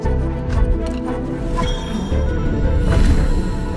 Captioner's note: chiming